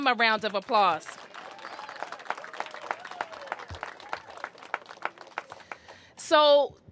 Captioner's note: applause